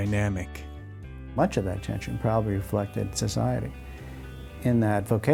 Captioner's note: voiceover